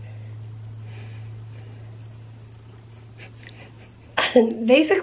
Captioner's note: crickets chirping